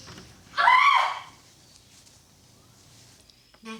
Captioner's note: door clicking; Annie screaming